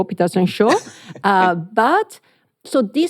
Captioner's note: chuckles